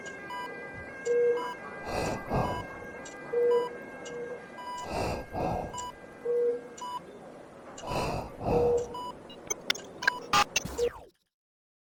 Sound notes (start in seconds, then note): 0.0 ambulance noises fade; 3.3 beeps and breathing continue; 9.2 glitching sounds